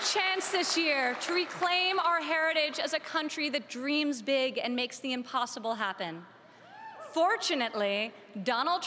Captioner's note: cheering and Applause